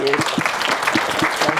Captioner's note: applause